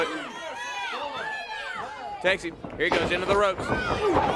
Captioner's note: crowd chatter